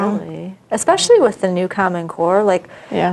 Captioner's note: general disagreement